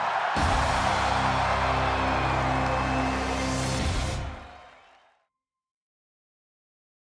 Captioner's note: crowd cheering; dramatic music